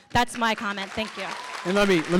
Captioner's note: applause